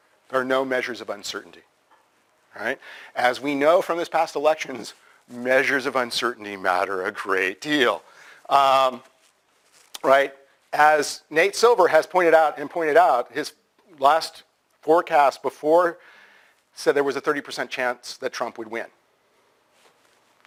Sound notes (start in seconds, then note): 8.4 pause